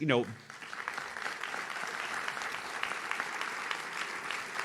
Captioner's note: audience claps